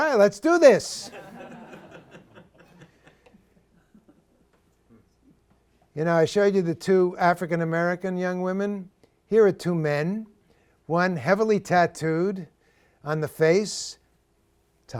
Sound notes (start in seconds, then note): 1.0 laughter